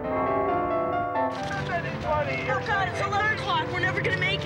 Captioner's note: Grandpa yelling